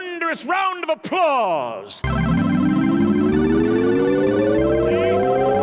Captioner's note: computer noises